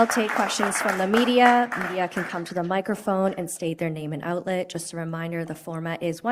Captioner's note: applause